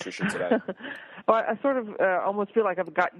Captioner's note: laughs